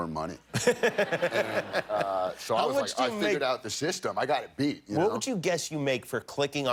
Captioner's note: laughter